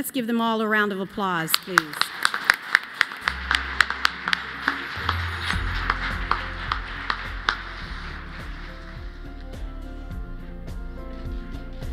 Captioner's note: applause